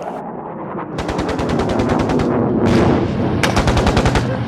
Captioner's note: gunfire